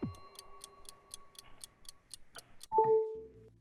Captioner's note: clock ticking; phone chimes